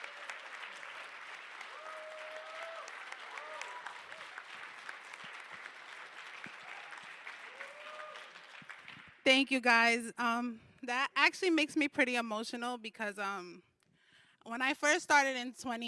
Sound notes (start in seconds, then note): 0.0 applause